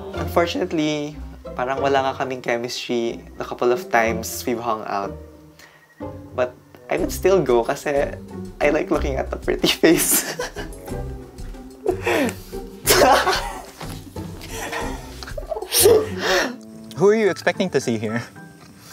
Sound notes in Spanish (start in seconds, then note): 12.8 riendo